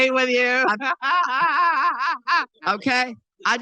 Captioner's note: laughing